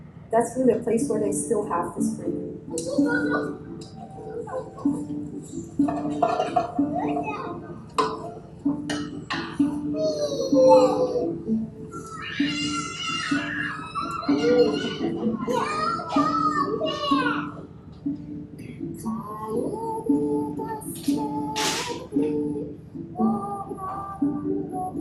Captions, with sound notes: that's really a place where they still have this freedom. (children chatter at play) (singing in foreign language)